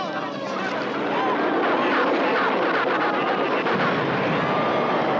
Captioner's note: engines roaring; explosion